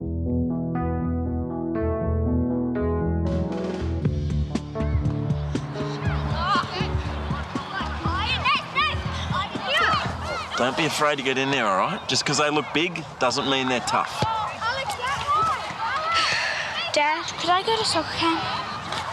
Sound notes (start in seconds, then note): 7.3 kids shout